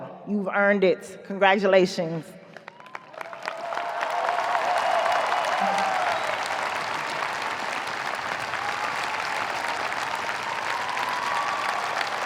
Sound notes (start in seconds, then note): 2.9 audience cheers, applauds